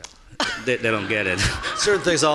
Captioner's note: laughing